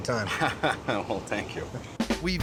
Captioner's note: laughing